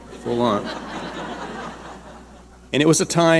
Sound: audience laughing

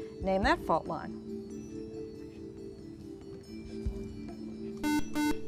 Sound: whispering; buzzer

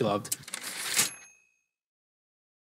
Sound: typewriter ding

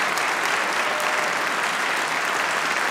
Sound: applause

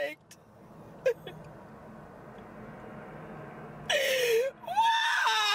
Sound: Crystal crying

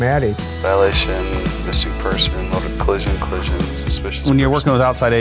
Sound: phone call

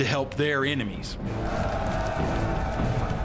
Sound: battle cry

